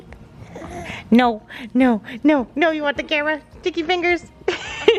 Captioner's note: laughs